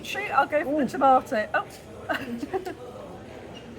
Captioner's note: laughing